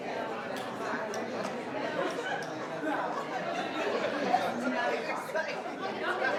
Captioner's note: people chattering continues